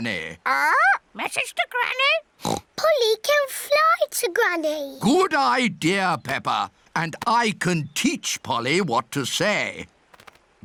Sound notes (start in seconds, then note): 2.4 oinks